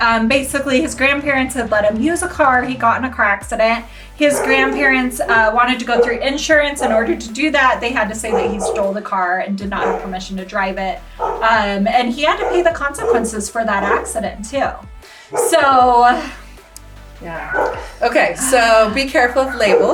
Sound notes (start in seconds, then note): 4.2 dog barking; 16.6 gasps; 19.2 dog barking